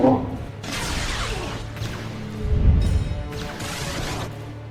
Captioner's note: Jarova speaking in foreign language; lasers blasting